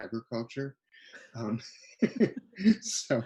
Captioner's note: laughs